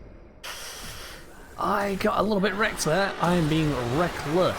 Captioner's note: sharp intake